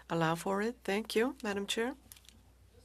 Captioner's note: speaking French